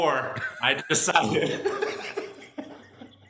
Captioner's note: laughter